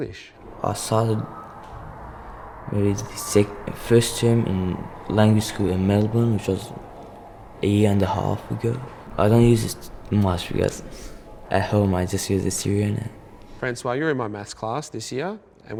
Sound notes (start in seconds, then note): 9.2 speaking Syrian